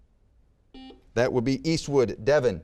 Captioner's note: buzzer beeping